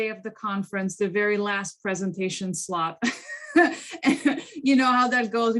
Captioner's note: laughs